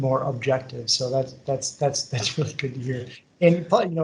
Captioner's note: laughs